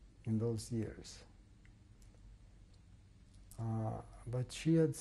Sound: pauses for 3 seconds

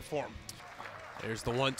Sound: crowd cheering

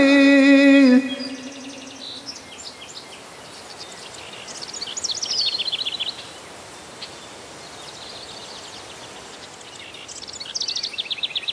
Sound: birds chirping

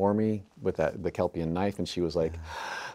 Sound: gasping

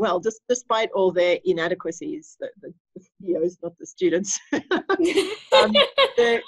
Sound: laughter

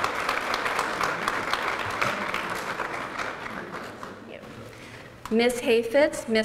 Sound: applause

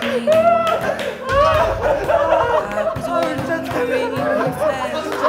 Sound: they are laughing so hard they can't lift their heads

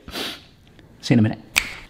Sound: sniffles

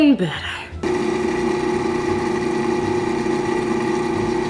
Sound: blender running

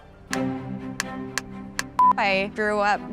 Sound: marker clicks

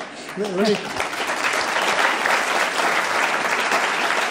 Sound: applause

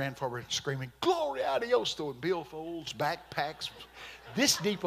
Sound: speaking in Spanish

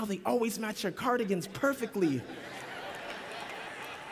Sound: laughter

